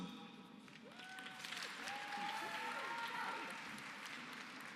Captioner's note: applause